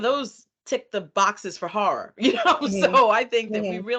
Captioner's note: chuckling